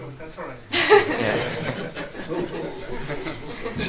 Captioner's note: all laugh